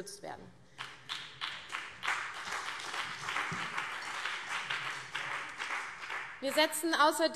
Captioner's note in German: Beifall CDU und BÜNDNIS 90/DIE GRÜNEN